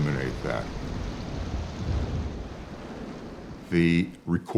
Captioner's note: rain blowing